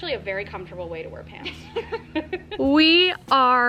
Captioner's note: laughing